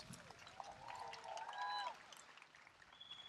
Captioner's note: applause